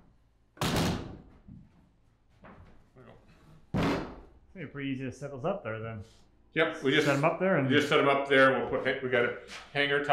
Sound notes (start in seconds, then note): 0.6 wood bangs loudly